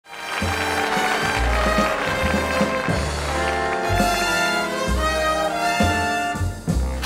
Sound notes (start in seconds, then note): 0.0 audience applauds; 0.1 upbeat music